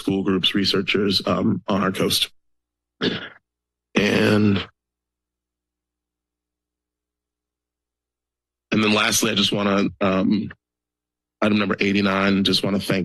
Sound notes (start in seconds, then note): 2.7 pause; 5.1 silence